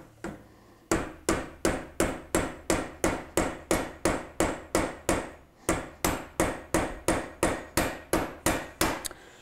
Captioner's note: hammer and saw clanging